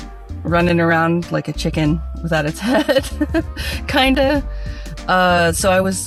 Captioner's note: laughs